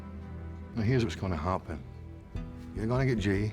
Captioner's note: scottish accent